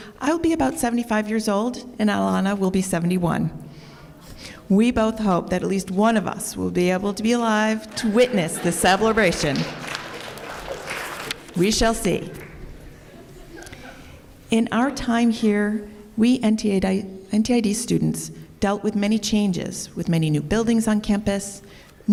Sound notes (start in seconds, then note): 9.9 laughter and applause